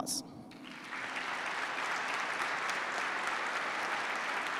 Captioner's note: participants clap